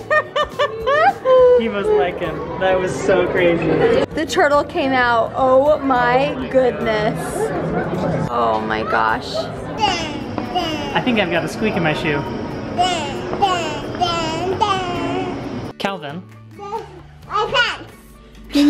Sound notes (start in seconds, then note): 0.0 laughs; 9.8 babbles; 12.8 babbles